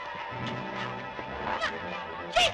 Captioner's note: ominous music; shouting